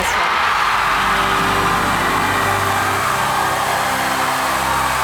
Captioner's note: applause